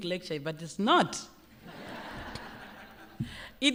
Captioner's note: laughter